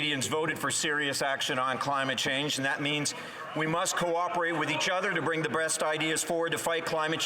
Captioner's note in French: voix de l'interprète